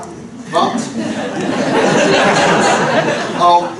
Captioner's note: laughter